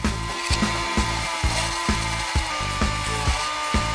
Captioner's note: motor whirring